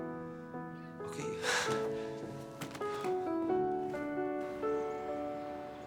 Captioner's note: laughs